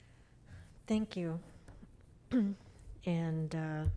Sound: clears throat

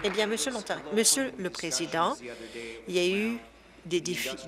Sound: applause

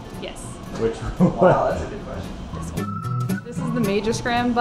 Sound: mild laughter

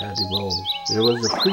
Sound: animal growling

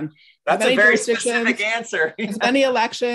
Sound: chuckles

